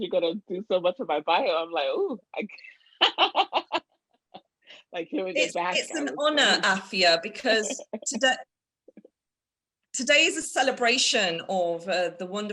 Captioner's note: laughter